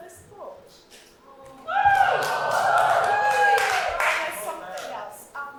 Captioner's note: audience cheering